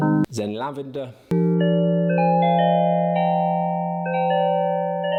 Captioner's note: chimes chiming